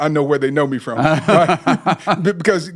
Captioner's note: laughing